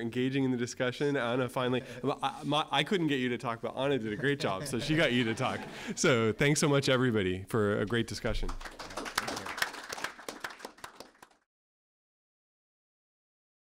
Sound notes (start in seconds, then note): 4.0 laugh; 8.2 applause